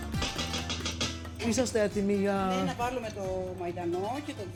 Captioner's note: speaking greek